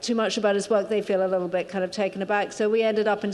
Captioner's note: none